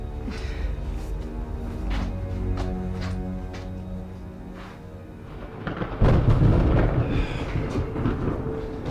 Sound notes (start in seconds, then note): 5.2 thunder rumbles